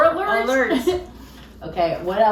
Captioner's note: laughs